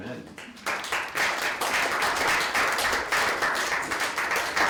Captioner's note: audience applauding